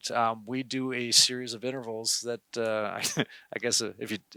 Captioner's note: chuckles